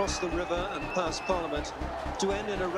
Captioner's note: whistling